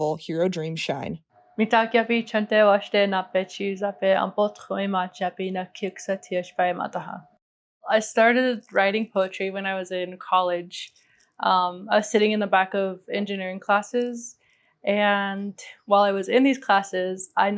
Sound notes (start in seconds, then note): 1.6 speaking in Indigenous language